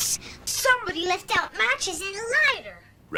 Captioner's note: slight pitchbend